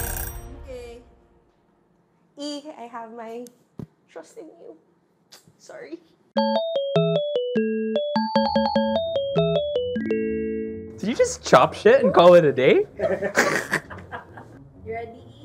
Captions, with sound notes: - Okay. - E, I have my trust in you. Sorry. - Did you just chop things and call it a day? (laughs) - Ready?